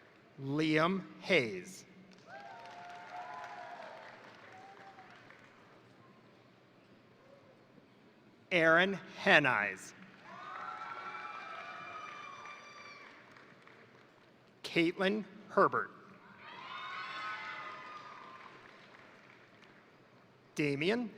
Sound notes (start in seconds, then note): 2.1 crowd applauding; 2.2 crowd cheering; 10.0 crowd cheering; 10.0 crowd applauding; 16.3 crowd cheering; 16.6 crowd applauding